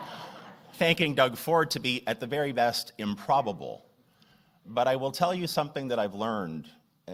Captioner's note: laughter; laughter